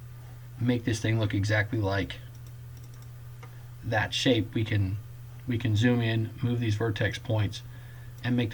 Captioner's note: clicking